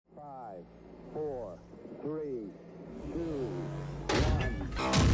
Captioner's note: launch and wooshing sounds